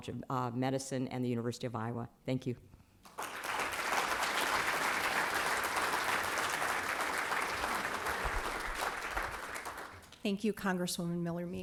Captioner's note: applause